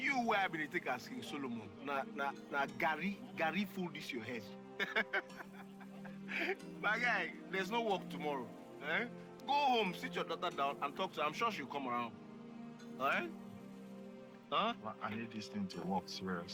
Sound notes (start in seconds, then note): 4.7 laughs